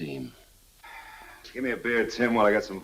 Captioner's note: sighs